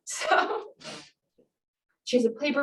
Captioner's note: laughs